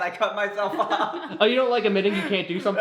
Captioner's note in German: Schwestern kichern